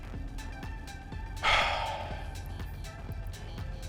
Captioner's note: deep sigh